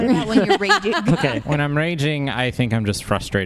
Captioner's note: laughs